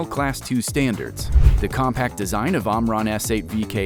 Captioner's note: graphic whooshing